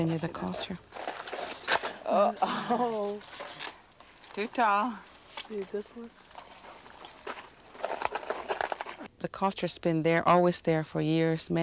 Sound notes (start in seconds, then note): 1.6 laughs